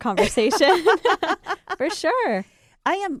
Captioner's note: laughing